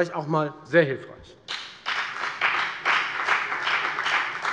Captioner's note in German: Beifall bei der FDP